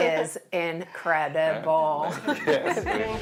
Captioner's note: laughs